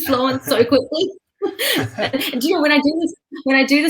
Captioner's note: laughing